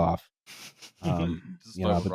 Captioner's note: laughs quietly